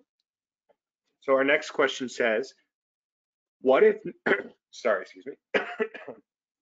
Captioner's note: coughs